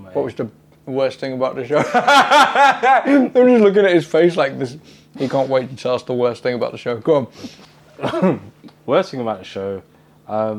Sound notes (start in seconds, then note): 1.8 laughs